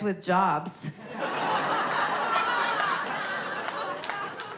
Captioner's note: audience laughing